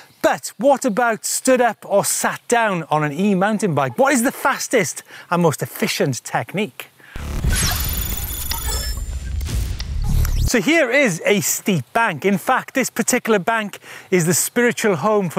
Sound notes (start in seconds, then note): 7.2 computer whirring